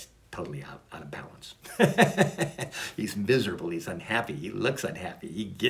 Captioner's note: laughs